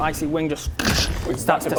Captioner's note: doosh!